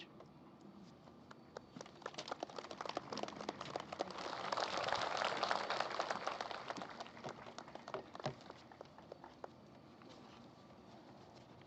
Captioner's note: applause